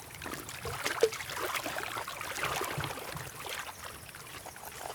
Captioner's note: water sloshes